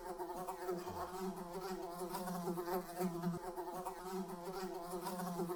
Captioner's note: fly continues buzzing